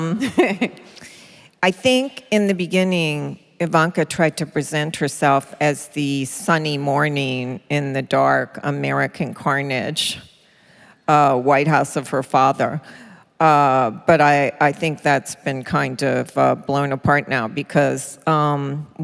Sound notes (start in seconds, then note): 0.1 laughter